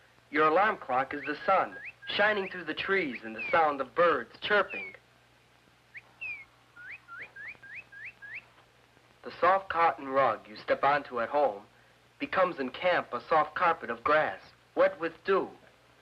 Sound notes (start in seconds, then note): 5.4 birds chirping